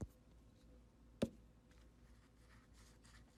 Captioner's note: tap